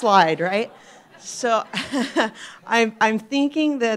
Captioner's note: laughter